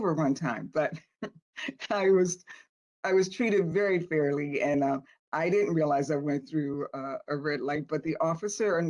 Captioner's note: laughter